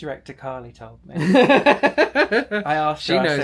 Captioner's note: laughing